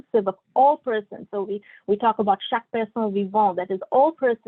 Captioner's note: non-english speech